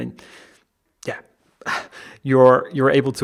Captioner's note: laughing